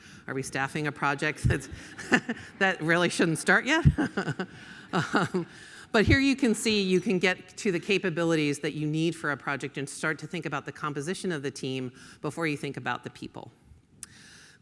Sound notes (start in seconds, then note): 4.5 laughs